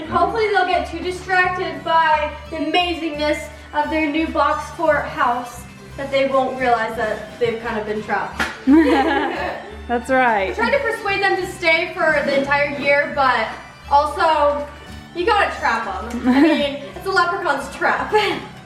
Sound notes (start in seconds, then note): 8.6 laughs